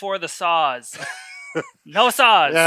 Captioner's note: laughing